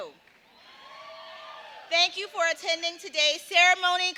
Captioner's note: cheers and applause